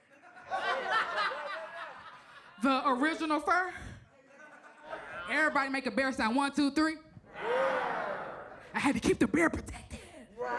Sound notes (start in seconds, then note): 0.1 audience laughs; 7.3 audience growls